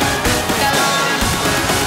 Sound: echo

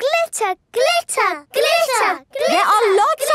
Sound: chanting

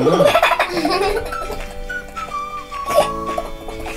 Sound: laughs

